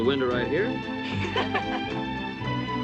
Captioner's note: laughter